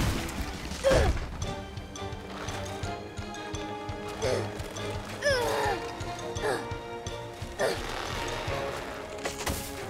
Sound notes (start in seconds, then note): 0.1 exerting grunt; 3.9 grunting harder